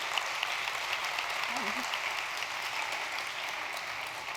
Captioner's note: audience applause